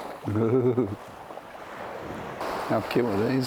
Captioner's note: laughing